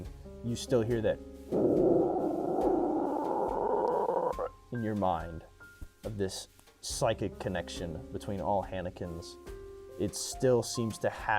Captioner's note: moaning